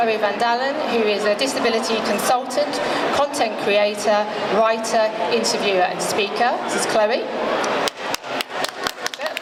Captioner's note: applause